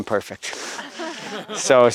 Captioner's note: laughter